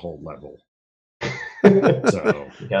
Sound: laughter

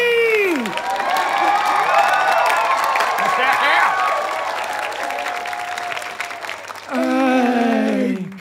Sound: audience cheering

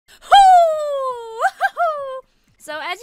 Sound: excited whooping

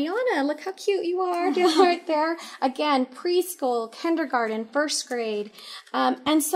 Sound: giggles

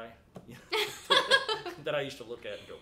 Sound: both laughing

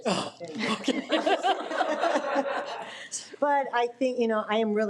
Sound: all laughing

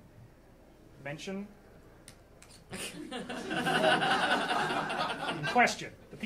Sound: audience laughing

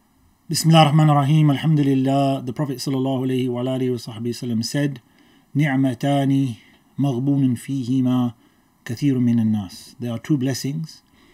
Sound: Arabic

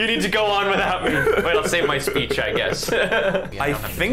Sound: laughing

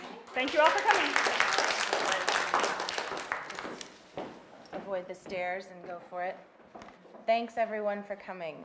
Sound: applause

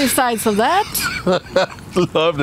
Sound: laughing

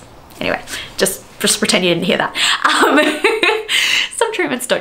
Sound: laughter

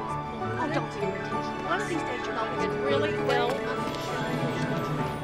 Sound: people chattering

